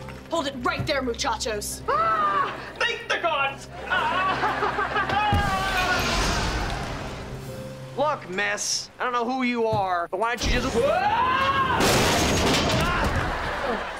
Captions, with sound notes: Hold it right there, Muchachos. Ah! Thank the Gods! [screaming] Look miss, I don't know who you are, but why don't you just-- [screaming]